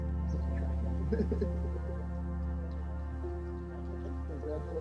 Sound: laughter

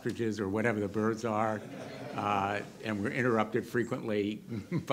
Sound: audience laughter

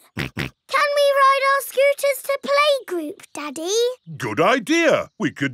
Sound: snorts

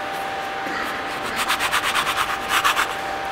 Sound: dull machine whirring

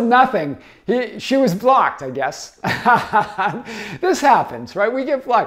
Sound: laughs

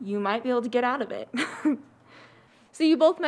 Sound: laughs

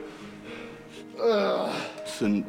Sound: grunting

